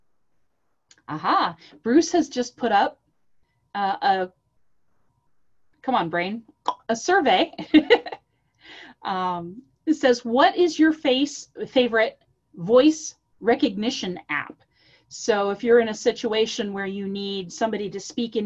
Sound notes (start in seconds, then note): 7.5 laughter